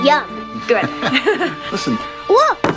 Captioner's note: laughs